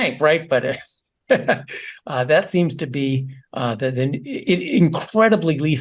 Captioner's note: laugh